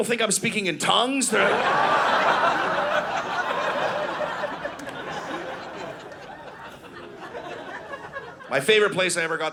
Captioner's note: audience laughing